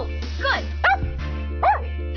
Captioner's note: dog barks; laughs